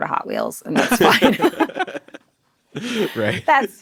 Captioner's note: group laughing